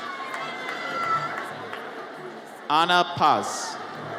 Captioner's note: audience cheers